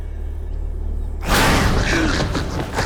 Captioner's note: banging; gasping